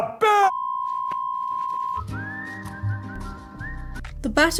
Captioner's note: censor tone + technical difficulties tune plays